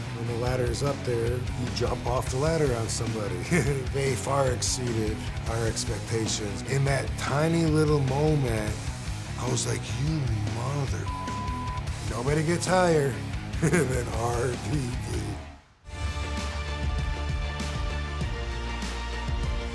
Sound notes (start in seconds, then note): 11.0 beep; 15.8 epic music